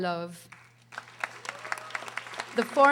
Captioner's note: audience applauding